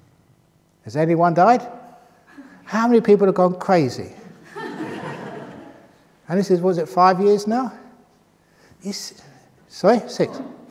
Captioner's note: laughter